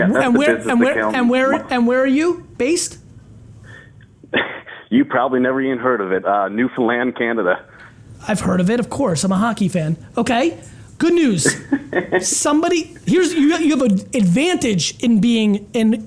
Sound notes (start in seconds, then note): 11.4 laughs